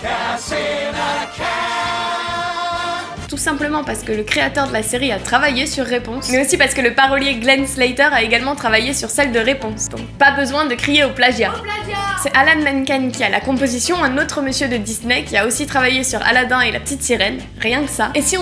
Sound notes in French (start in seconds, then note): 11.2 voix au loin : AU PLAGIAT !